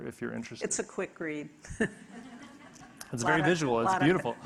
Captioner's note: audience laughing